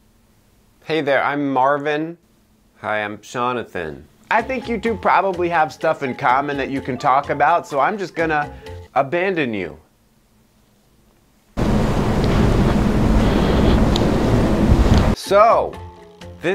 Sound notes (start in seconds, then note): 11.6 wind blowing